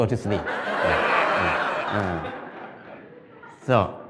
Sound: Smijeh

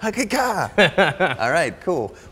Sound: Ramit laughing

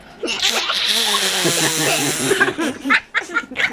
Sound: laughing

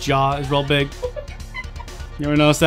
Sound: chuckles off-screen

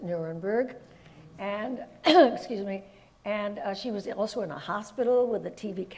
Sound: coughs

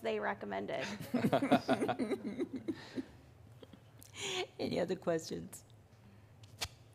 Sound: laughter

